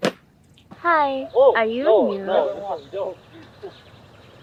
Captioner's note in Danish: på engelsk